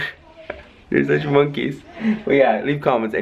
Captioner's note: chuckles